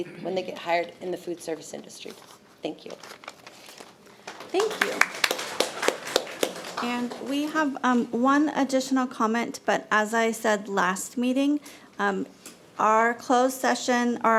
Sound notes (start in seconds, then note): 4.2 audience applauding